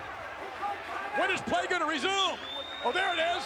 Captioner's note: referee whistling